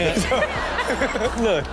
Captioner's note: crowd laughing